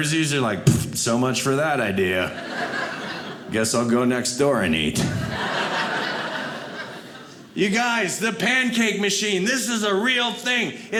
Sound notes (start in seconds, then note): 4.9 audience laughing